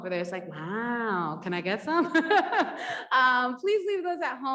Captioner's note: laughs